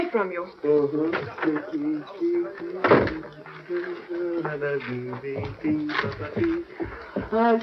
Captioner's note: humming